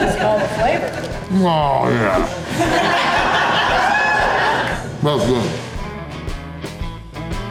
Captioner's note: crowd cheering